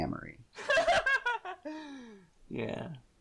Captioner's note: laughs uproariously